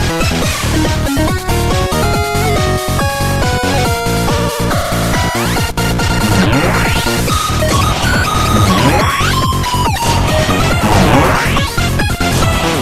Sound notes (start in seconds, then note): 7.1 blast; 8.8 blast